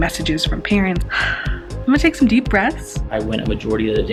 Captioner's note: exhales